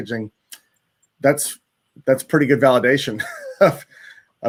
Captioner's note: chuckles